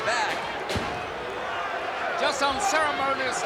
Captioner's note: knees thudding